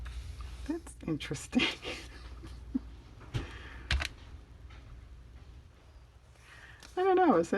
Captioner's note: laughs